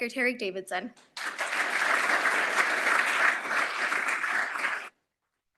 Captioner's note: applause